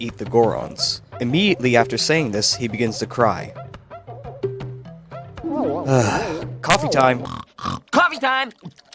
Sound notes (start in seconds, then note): 5.8 sigh